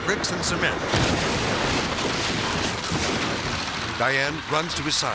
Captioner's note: silo thuds